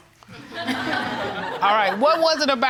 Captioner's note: courtroom laughing